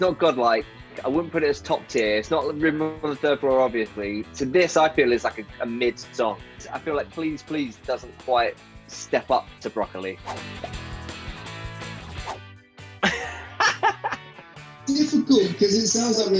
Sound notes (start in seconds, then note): 10.2 swooshing; 12.7 upbeat country music; 13.0 laughing